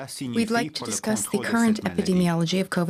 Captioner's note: speaking French